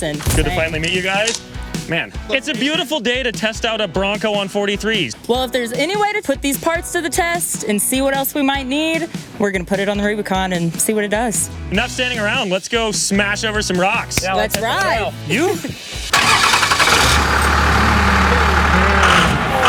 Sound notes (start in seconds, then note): 16.1 starts engine